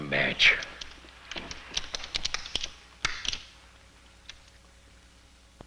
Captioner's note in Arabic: صوت الولاعات